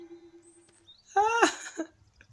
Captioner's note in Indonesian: ahahaha